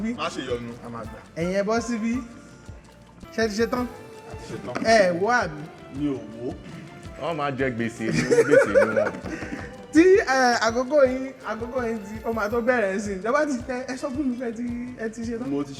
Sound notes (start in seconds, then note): 7.9 laughs